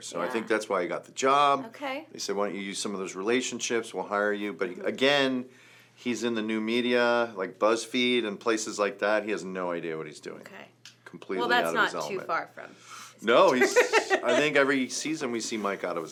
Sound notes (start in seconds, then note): 13.4 laughs